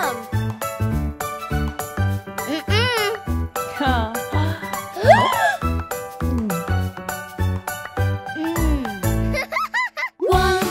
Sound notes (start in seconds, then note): 0.2 lighthearted music; 6.2 gasping; 9.2 laughing